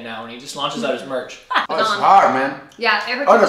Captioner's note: laughing